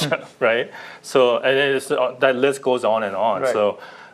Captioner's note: laughter